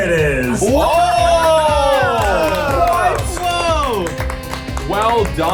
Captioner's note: everyone wowing and clapping